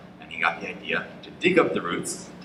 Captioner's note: none